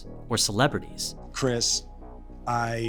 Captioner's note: soundbite of archived recording